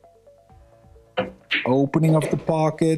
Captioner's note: balls clanging